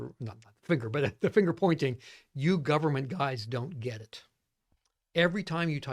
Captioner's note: laughs